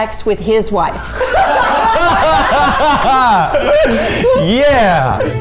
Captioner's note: all laughing